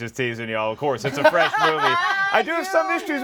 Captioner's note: laughs